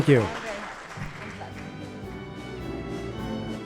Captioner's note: applause